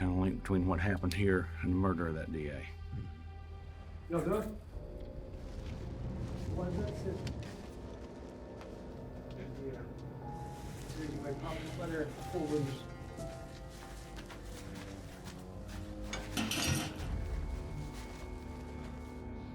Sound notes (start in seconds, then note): 4.0 ratchet talking outside; 13.5 footsteps; 16.0 clanking sound